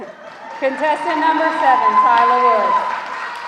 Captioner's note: audience laughing; audience cheering